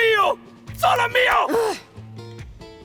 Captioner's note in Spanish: Zora gruñe